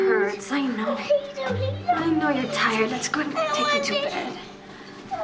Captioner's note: molly whining